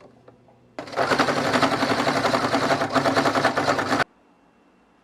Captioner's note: as the fabric gets thicker, The sound of the sewing machine is getting louder